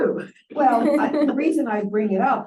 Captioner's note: laughter